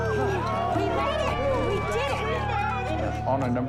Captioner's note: overlapping chattering